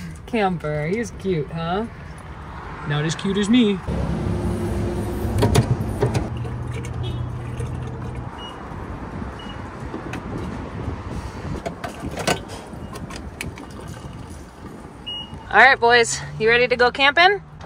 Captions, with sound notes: Camper, he is cute, huh? Not as cute as me. (horn honking) (electronic beeping) (gas pumping) All right, boys, you ready to go camping?